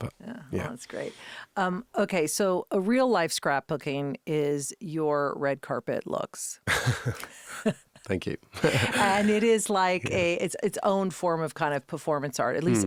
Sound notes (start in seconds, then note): 6.8 both laughing; 8.6 laughing